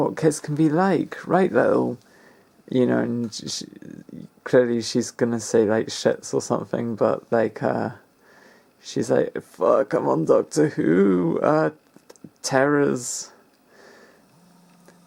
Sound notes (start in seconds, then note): none